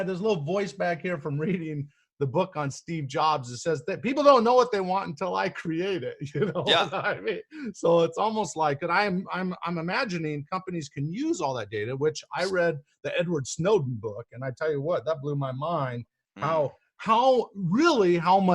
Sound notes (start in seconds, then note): 6.4 laughing